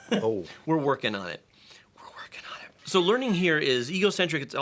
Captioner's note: whispers